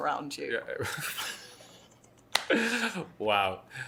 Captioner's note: laughs